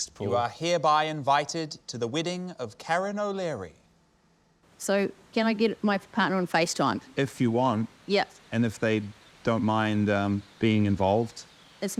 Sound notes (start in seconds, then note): none